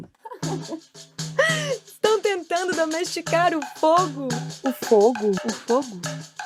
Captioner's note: laughter